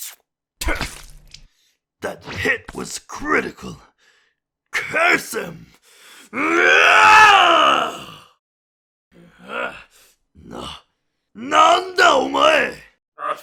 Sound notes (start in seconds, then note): 0.6 spits